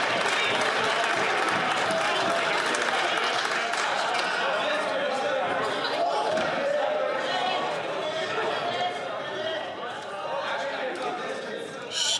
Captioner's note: some Applause